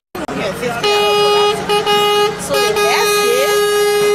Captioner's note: horn honking